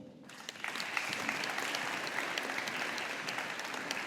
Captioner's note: audience applauding